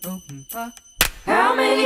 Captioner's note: clap